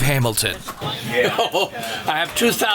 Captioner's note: chuckles